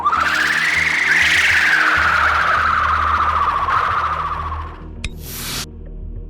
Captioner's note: Loud bahro pain screech